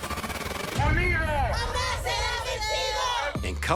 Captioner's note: crowd shouting indistinctly